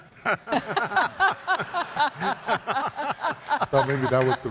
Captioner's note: all laugh